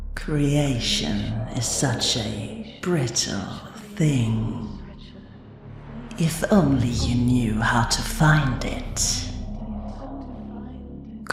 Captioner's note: echoing